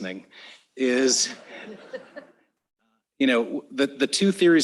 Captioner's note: laughter